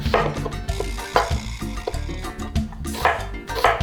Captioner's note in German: Messer hacken